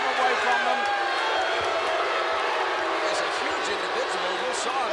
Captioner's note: crowd clamoring